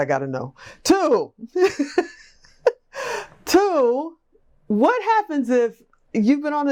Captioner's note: laughs